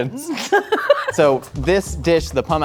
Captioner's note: laughs